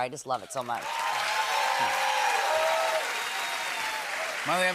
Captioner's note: cheers and applause